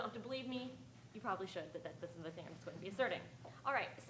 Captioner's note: speaking faintly